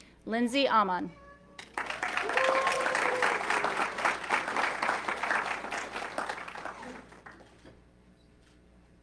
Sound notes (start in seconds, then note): 1.6 audience clapping